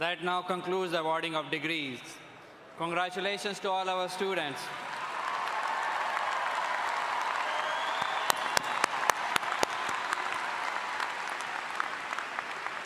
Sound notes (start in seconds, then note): 4.8 all applauding